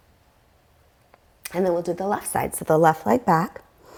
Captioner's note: deep breathing sounds